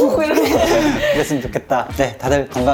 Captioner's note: laughing